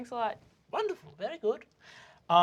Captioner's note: elderly, high-pitched voice